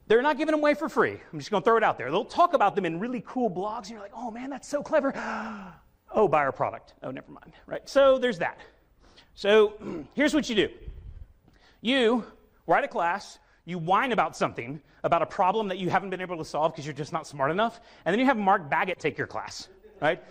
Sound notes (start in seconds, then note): 5.2 gasps